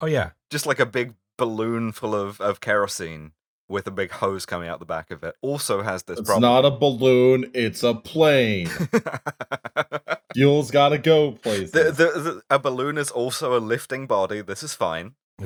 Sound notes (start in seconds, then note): 11.4 laughter